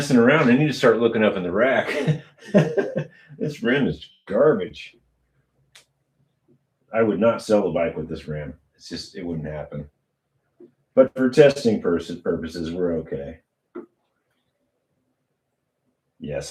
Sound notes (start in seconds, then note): 1.8 laughter